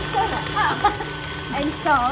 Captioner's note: chuckles